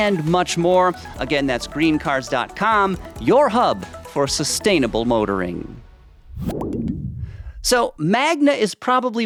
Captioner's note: logo popping